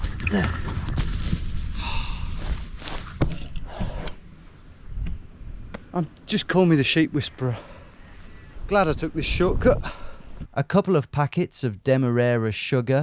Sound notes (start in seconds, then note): 1.7 huffs